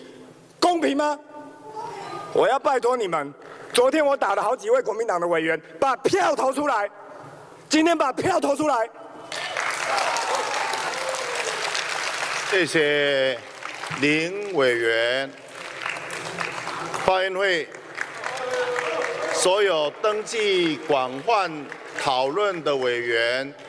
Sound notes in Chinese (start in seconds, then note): 9.1 台下響起掌聲; 16.2 台下掌聲; 20.5 台下響起掌聲及歡呼聲